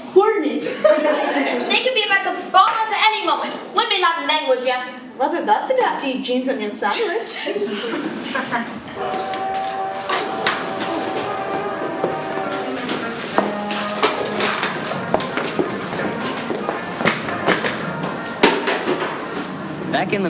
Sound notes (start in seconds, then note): 0.6 laughing; 8.5 laughing; 8.6 dramatic Music